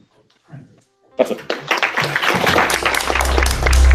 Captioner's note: applause